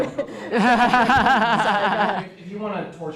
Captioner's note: laughter